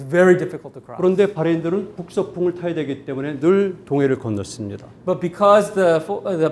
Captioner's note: speaking in Korean